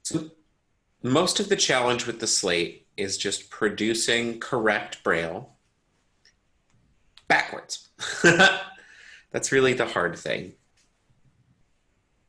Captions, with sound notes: Most of the challenge with the slate is just producing correct braille backwards. (giggles) That's really the hard thing.